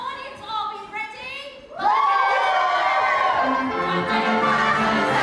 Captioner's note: audience cheers